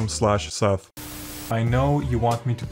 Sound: Static

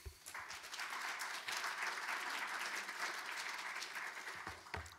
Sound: audience applauding

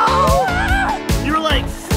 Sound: cheers

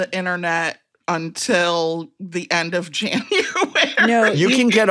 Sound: laughs

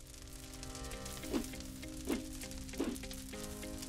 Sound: soft music; logo whooshing; soft music

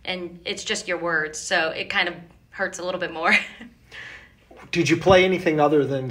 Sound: chuckles

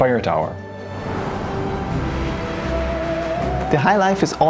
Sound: uplifting music; wind blowing

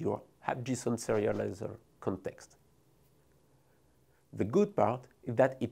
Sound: text whooshing

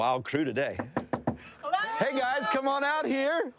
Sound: door knocking

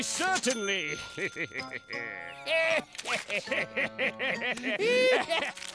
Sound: laughing

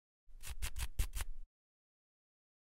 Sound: scratching

